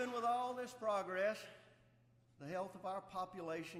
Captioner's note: applause